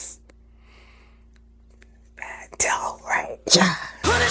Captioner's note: whispering